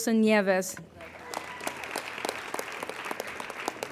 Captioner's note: applauding